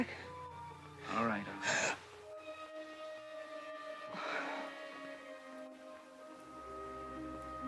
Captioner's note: Dawn gasps